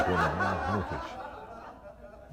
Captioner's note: laughter